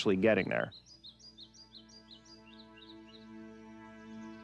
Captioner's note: birds chirping